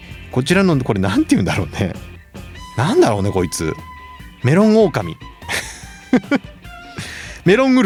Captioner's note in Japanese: 笑い